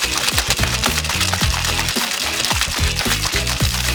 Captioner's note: ice shakes